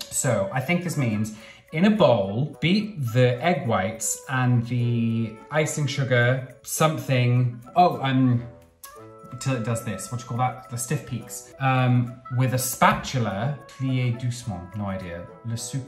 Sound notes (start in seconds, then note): 13.7 speaking in foreign language